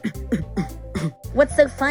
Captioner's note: Facey laughs then coughs